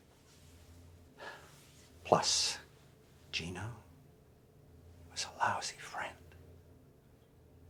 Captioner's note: sighs